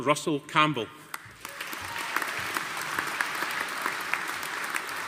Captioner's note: audience applauding